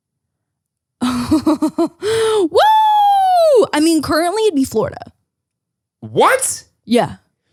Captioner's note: laughs